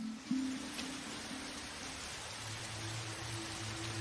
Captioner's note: water rushing